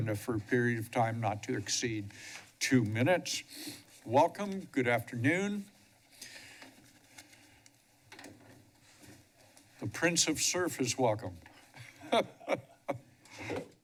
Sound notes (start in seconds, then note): 3.4 sniffles; 11.8 laughs